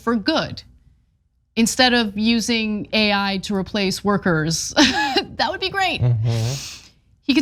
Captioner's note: laugh